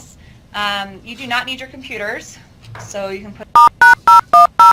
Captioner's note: beeping